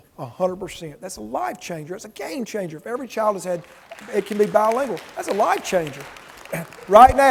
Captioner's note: audience applause